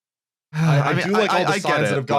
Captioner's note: sighs